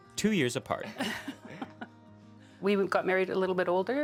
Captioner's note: laughing